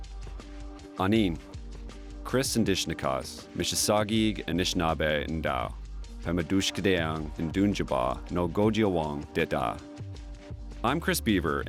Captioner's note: speaking Indigenous language